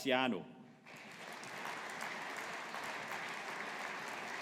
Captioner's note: audience applauding